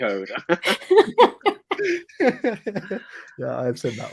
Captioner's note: all laugh